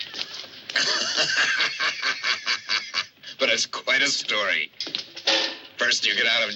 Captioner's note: laughs